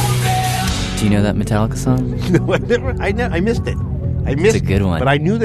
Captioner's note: laughs